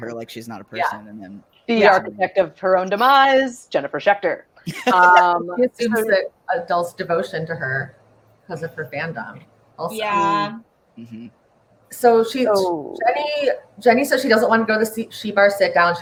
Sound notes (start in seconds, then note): 4.6 laughs